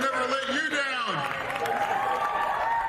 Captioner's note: cheers and applause